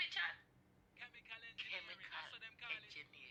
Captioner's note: father chattering